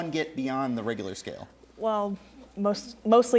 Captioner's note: none